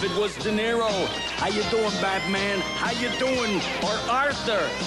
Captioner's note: Italian accent